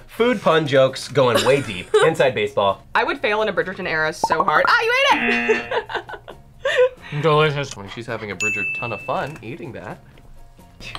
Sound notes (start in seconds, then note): 5.1 buzzer; 5.2 laughs